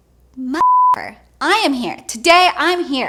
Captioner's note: beep